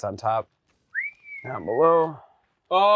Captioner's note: whistles